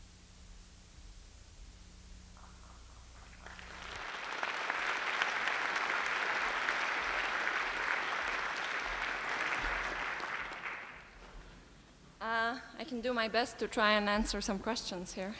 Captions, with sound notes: [APPLAUSE] I can do my best to try and answer some questions here,